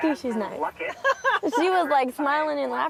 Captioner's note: laughs